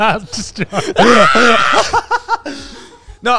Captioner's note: screaming